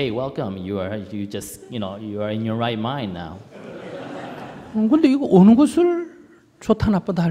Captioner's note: audience Laughter